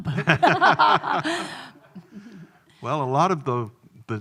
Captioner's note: both laughing